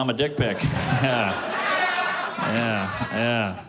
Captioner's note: laughter